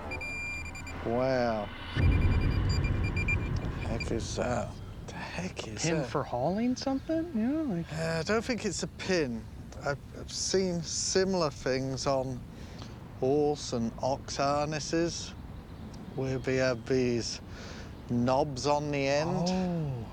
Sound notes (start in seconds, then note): 0.0 beeping